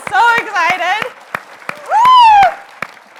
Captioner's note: audience applauds